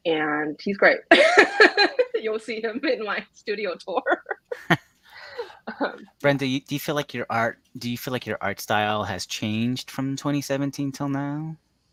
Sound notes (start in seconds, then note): 1.1 laughs; 3.9 laughs